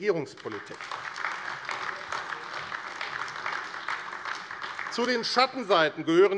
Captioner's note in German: Beifall AfD